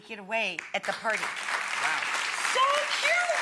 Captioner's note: applause